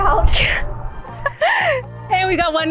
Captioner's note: laughing